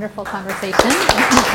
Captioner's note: applause